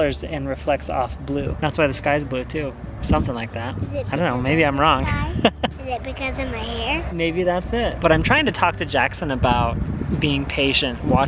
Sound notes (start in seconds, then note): 5.3 laughs